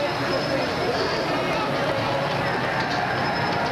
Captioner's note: crowd gets louder and more riotous